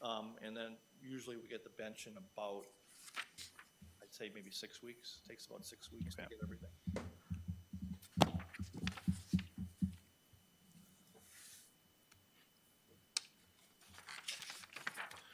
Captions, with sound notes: and then usually, we get the bench in about, I'd say, maybe six weeks? Takes about six weeks to get everything. Okay. (paper shuffling)